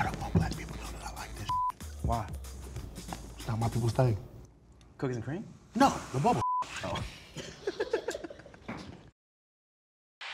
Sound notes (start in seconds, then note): 1.4 beep; 6.4 beep; 7.3 guy chuckles